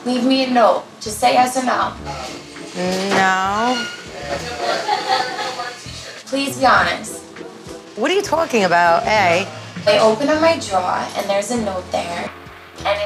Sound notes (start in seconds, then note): 3.7 restaurant chatter